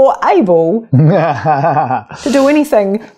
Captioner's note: laughs loudly